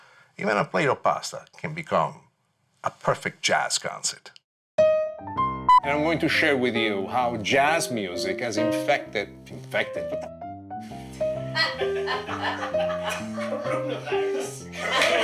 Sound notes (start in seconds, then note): 5.6 beep; 11.5 laughter off-screen